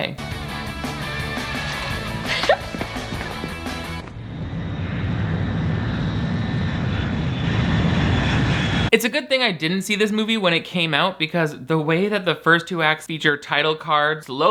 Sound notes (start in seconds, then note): 0.0 upbeat music; 4.6 plane droning